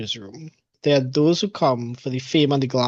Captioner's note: laughs